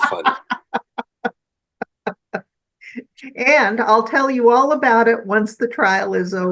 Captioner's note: laughing